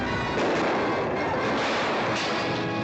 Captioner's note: glass exploding